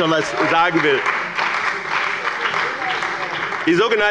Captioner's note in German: Beifall bei dem BÜNDNIS 90/DIE GRÜNEN und der CDU